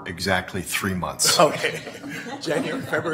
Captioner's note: laughter